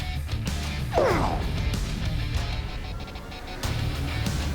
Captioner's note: rock music playing; shouting